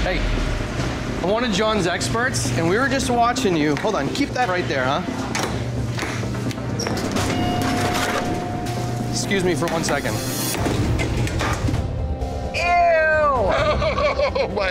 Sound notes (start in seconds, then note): 0.0 suspenseful music intensifies; 5.3 refrigerator door clanking; 7.0 foreboding zing; 10.5 items clattering